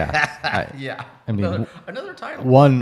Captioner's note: laughs